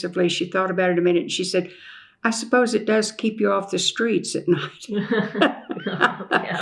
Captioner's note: laughter